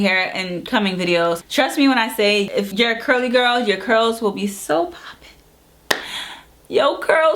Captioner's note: claps hands